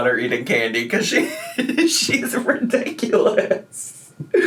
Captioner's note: laughs